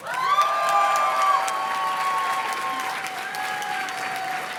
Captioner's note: audience cheers and claps